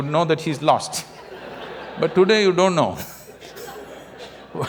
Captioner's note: laughter